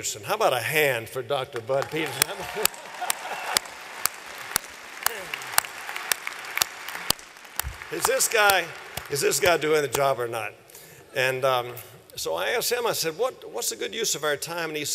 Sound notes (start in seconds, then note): 1.5 applause